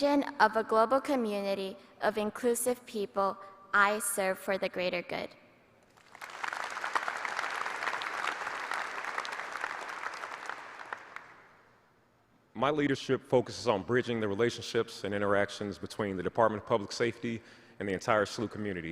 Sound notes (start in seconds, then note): 4.2 applause